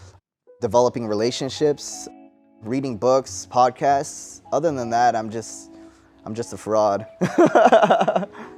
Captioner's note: laughs